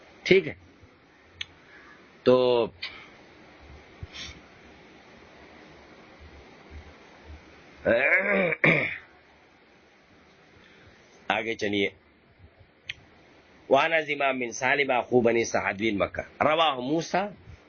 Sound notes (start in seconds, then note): 8.0 clears throat